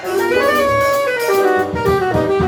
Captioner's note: crowd cheers